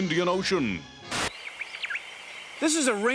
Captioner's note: birds chirping